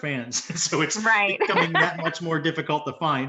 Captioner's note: laughs